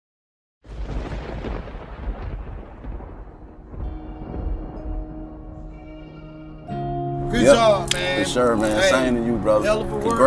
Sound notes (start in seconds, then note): 0.6 thunder crashing; 3.2 calm music